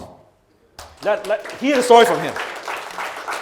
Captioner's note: audience claps